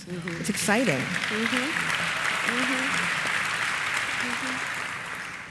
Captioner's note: applause